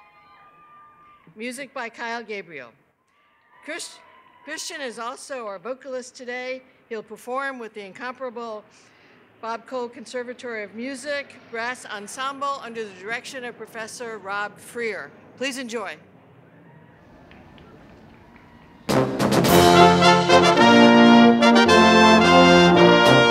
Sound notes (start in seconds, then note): 0.0 cheers and applause; 5.1 cheers and applause